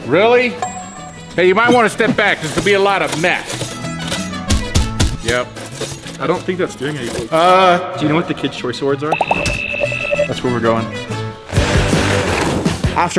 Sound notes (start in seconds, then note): 0.5 suspenseful chime; 3.9 bright whimsical music; 3.9 saw thudding; 9.4 spinner whirring; 11.6 upbeat rock music